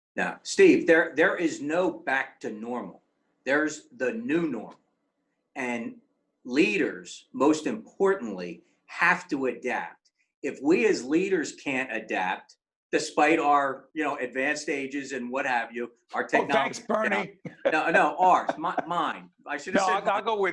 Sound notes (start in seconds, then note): 16.3 laughing